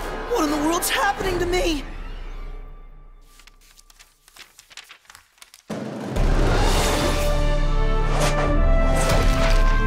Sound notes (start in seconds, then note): 3.2 pages flipping